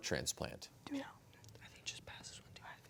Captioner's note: whispering